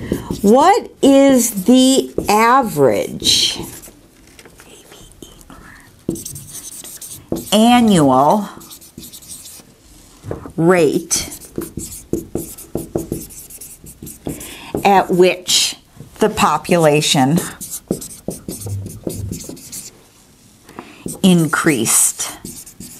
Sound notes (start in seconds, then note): 3.7 sounds of marker writing; 17.3 sounds of marker writing